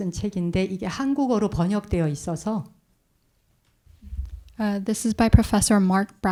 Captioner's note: speaking in Korean